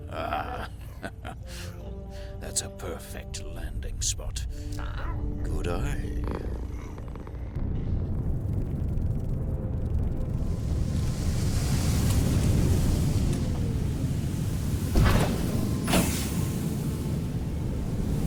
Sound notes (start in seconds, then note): 0.1 laughs; 7.8 Giree purrs